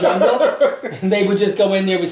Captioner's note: laughs